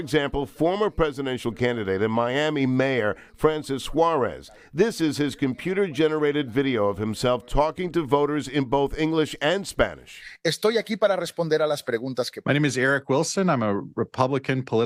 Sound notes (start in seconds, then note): 3.1 nat/sd / francis suarez deep fake/courtesy: sos america pac/talking in english